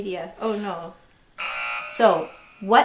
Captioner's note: buzzer beeping